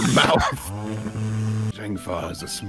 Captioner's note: vacuum